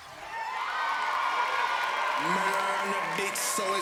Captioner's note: crowd cheering and clapping